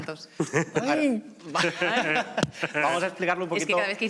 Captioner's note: laughter